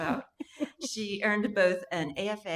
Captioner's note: laughing